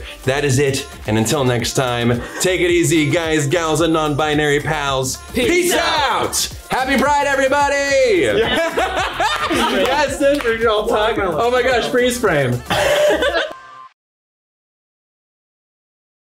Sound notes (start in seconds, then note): 8.2 all laughing loudly; 12.6 all laughing loudly